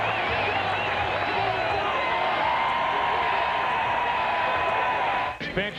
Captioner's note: cheering